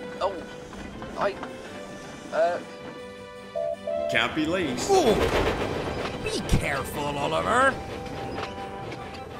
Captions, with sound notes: "Oh? I...err..." [OLIVER WHISTLES] "Can't be late!" "Be careful, Oliver!"